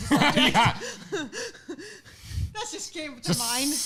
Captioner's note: laughing